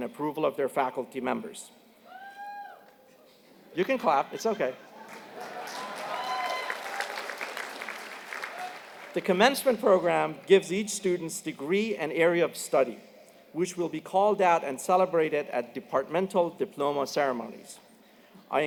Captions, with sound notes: approval of their faculty members. [CHEERS] >> You can clap, it's okay. >> [APPLAUSE] >> The commencement program gives each student's degree an area of study, which will be called out and celebrated at departmental diploma ceremonies.